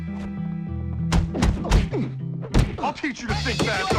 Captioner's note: knuckles thumping